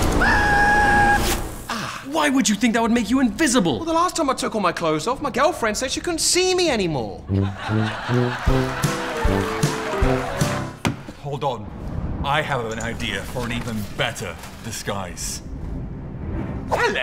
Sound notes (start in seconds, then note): 1.1 zip